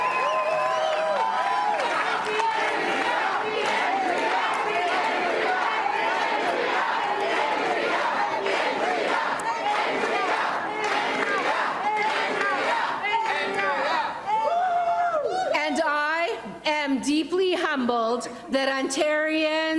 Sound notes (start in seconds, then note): 0.0 applause and cheering; 6.0 Crowd chanting "Andrea"